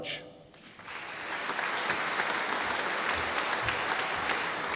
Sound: audience applauding

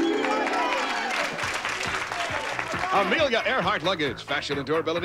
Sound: audience applauding

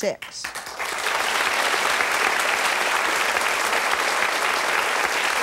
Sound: audience applauding

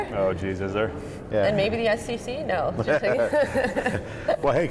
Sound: laughs

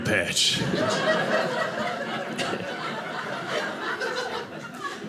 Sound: audience laughing

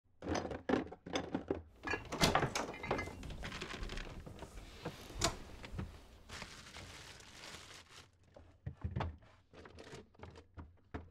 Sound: rummaging

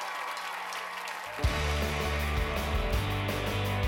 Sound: cheers and applause

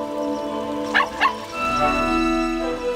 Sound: barking

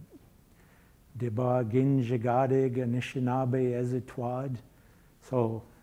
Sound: speaking in foreign language

